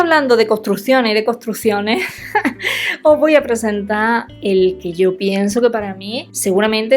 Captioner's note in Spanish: risas